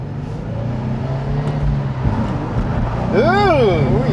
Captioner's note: engine roaring